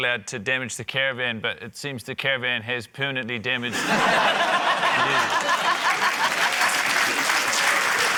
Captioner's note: laughter, applause